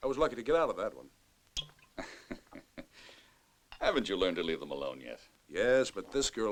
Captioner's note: chuckles